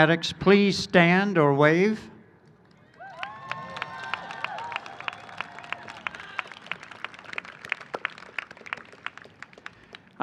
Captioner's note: cheering and applause